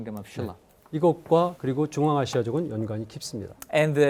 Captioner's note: speaking in Korean